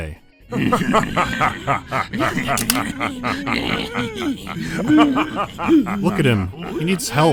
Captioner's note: vampire lords are laughing scornfully, while necromancer is wheezing powerlessly